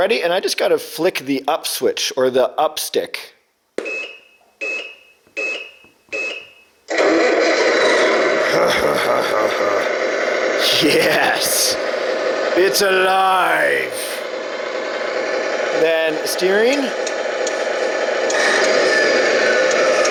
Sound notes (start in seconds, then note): 5.4 truck beeps; 7.3 truck engine roars; 17.0 truck engine roars